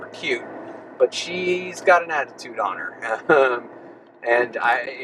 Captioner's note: laughs